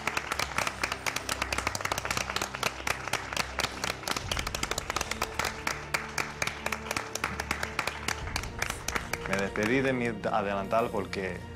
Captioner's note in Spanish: aplausos